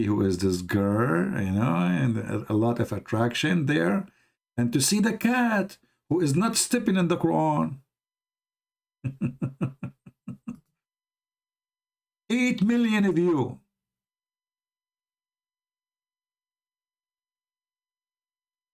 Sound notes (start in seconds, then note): 9.0 Ketawa